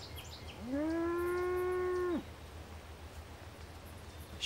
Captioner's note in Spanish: vaca mugido